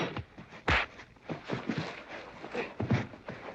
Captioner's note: pow, thump